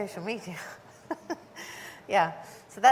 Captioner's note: chuckles